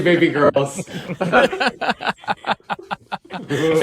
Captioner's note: laughter